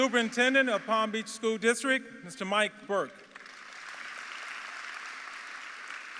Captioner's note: applause